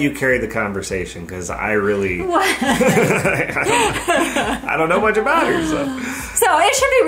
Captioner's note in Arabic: يضحك